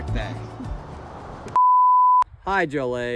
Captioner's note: production tone beeps